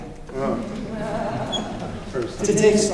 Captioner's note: laughter